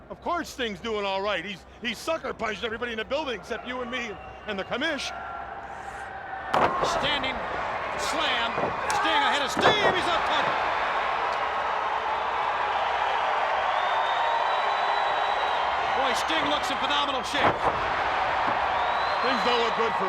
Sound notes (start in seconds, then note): 12.0 crowd cheering